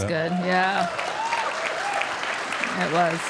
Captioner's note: audience applauding; audience cheering